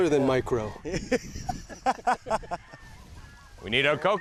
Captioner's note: laughing